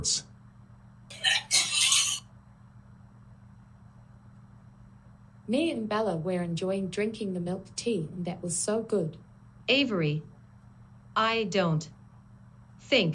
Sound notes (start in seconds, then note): 1.1 barfing